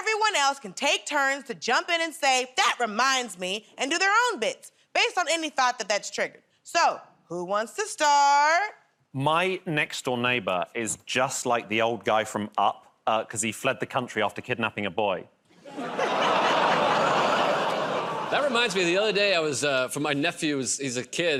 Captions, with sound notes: everyone else can take turns to jump in and say, "That reminds me," and do their own bits based on any thought that that's triggered. So who wants to start? -My next-door neighbor is just like the old guy from "Up" 'cause he fled the country after kidnapping a boy. [ Laughter, audience "Oh"s ] -That reminds me, the other day, I was -- for my nephew's -- he's a kid,